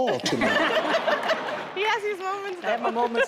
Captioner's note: audience laughs